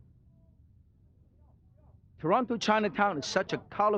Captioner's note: crowd chatters